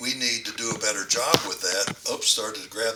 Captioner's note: muffled microphone noises